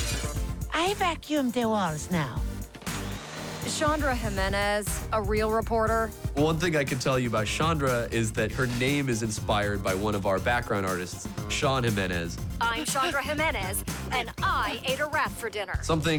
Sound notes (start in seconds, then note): 1.9 air rushing